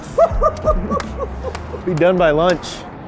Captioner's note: crew laughing